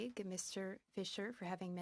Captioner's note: speaking French